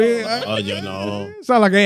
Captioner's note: speaking Spanish